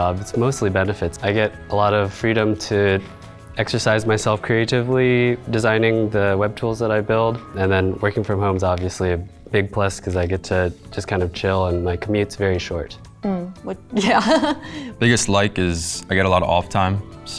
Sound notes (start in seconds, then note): 14.0 laughs